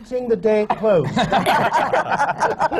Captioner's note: laughter